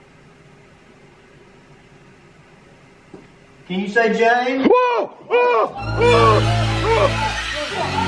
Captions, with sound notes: Can you say, "James"? [screams] [dramatic music]